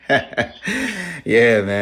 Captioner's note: laughs